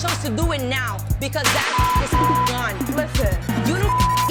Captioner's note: beep